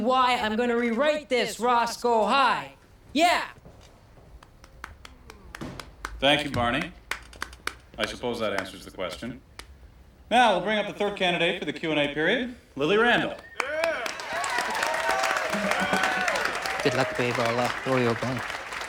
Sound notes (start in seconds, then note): 4.4 clapping; 13.4 cheering and applauding